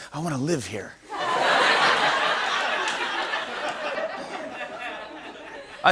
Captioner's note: laughter